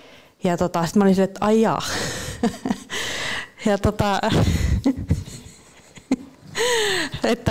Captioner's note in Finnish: Naurahtaa